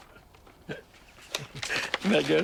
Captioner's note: laughter